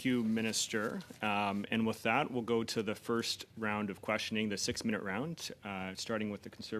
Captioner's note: speaking Alternate Language